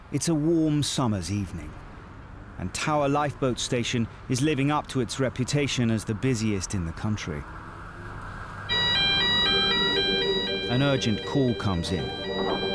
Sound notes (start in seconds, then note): 8.6 sirens blaring